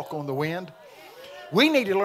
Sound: congregation shouting

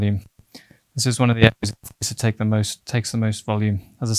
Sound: audio glitch

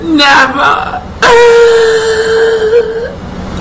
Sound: cries

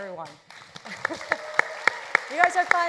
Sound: audience applauds; laughs

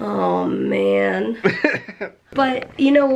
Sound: laughter

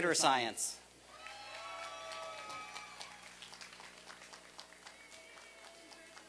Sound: applause and cheering

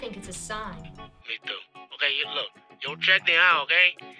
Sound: voiceover

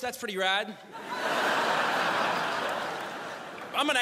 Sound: crowd laughs

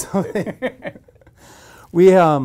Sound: both laugh

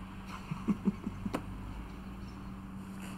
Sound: chuckles

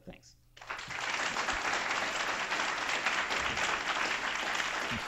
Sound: applause

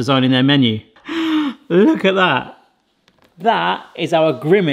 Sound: gasps

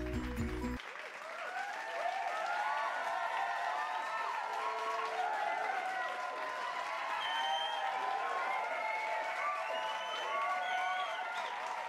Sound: crowd cheering and clapping

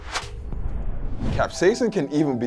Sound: wooshing noises

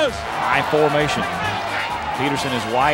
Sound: voiceover

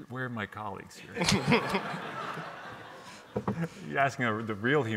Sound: audience laughs

